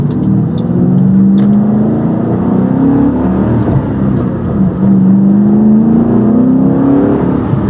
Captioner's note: V8 engine revving noises